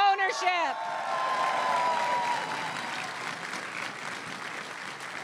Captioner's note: crowd cheering and applauding